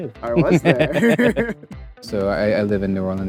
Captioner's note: laughs